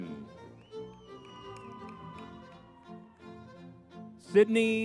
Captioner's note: crowd cheering